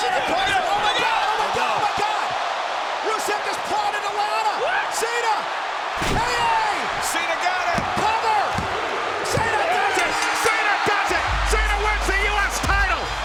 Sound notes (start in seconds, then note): 7.6 hands thudding; 7.7 body thudding; 10.0 bell ringing; 13.0 crowd cheering; 13.0 upbeat music